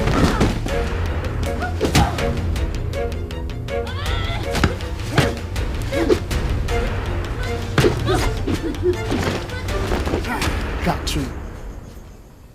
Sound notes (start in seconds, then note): 0.0 thudding; 7.2 both grunting